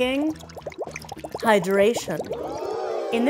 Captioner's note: crowd says oooh